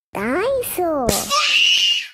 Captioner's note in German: klopfen